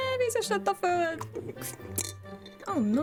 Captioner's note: slurp